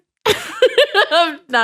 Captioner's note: chuckles